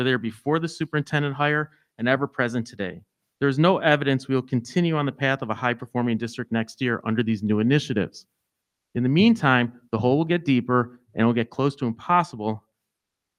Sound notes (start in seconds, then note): none